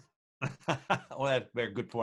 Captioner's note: laughing